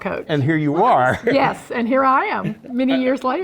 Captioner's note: laugh